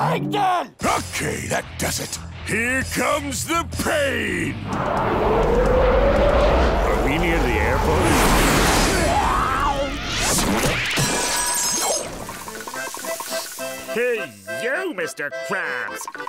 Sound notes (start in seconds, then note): 4.7 jet engines sounding effect; 10.4 shattering